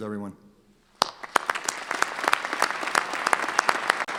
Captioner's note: clapping